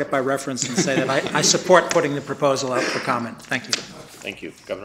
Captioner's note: laughter